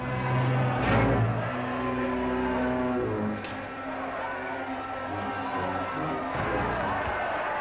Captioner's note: ominous music; crowd cheering